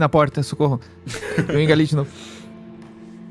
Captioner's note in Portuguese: risadas